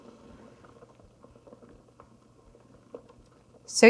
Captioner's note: solution burbling